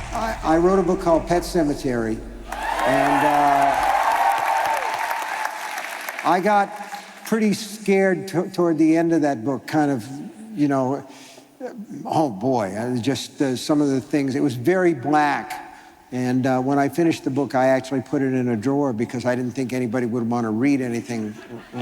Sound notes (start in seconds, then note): 2.4 cheering